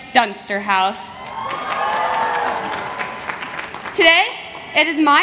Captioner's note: cheers